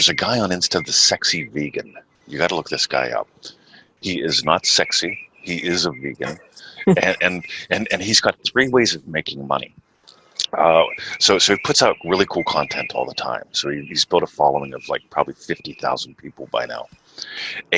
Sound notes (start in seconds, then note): 6.2 chuckles